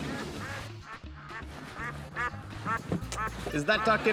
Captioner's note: duck quacking